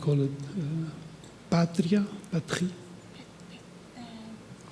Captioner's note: speaking in foreign language